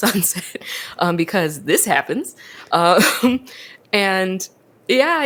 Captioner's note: laughs